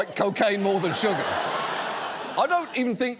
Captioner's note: studio audience laughs